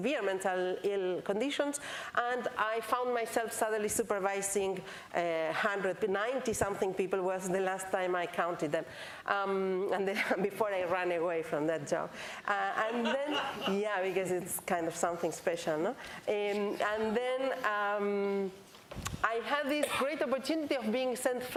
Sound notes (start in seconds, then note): 12.8 laughter